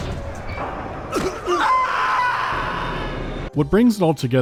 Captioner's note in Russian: крик ужаса